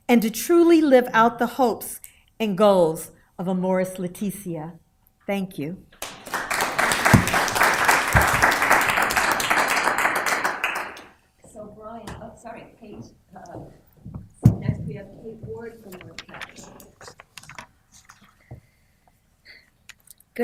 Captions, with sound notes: and to truly live out the hopes and goals of Amoris laetitia. Thank you. [APPLAUSE]